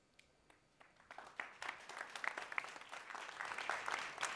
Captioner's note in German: applaus